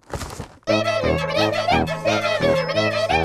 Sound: characters vocalizing

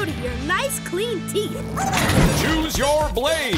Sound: squeaking

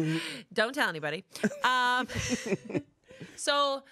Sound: laughs

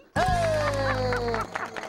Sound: applause

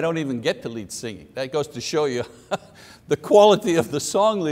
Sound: chuckles

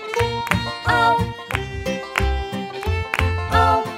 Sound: clap

